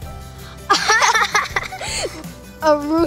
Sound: laughing

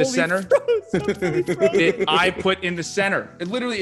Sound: laugh

